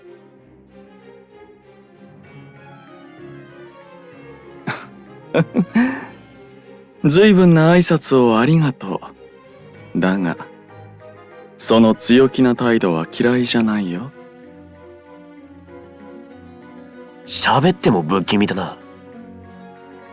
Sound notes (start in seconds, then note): 5.3 laugh